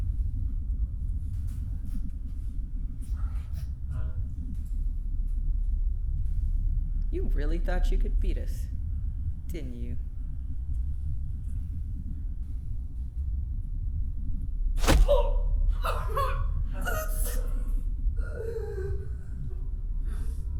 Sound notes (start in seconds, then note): 14.8 smacking; 14.9 grunting; 18.3 gasping